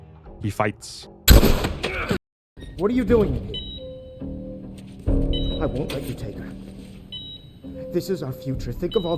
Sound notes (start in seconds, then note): 1.2 gunshot